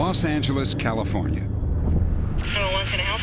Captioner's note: on phone